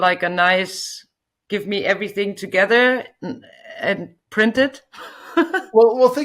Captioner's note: chuckles